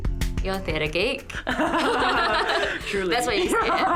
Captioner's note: chuckles; chuckling